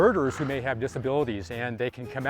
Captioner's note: bird squawking